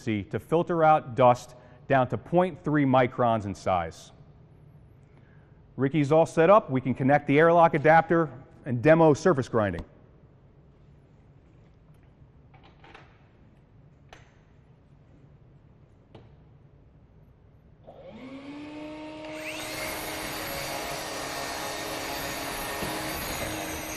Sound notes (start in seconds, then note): 17.8 vacuum motor running; 19.8 surface grinder motor running